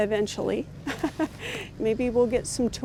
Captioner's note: laughing